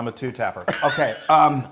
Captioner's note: laugh